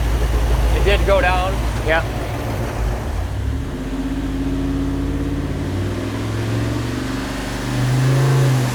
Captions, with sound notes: - It did go down? - Yeah. (engine revving)